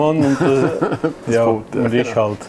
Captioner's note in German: lacht